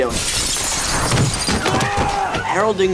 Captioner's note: glass shattering; screaming